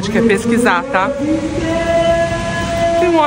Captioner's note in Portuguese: voz em alto falante